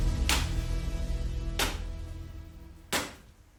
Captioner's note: ax chopping